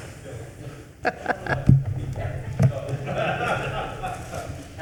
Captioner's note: laughing